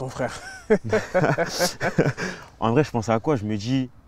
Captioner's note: laughs